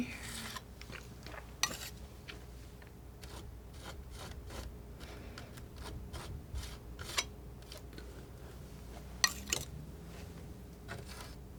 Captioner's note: scratching